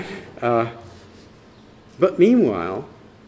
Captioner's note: laughter